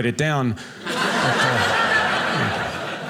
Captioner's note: audience laughing